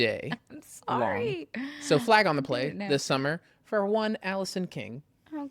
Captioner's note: laughs